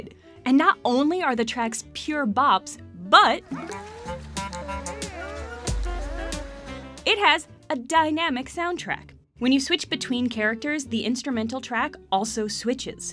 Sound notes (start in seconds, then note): 3.5 onion sounds like a trumpet; 5.2 nose sounds like a saxophone